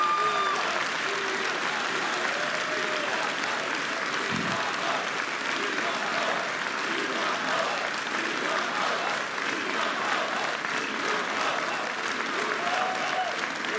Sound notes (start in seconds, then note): 0.0 applause; 2.0 cheering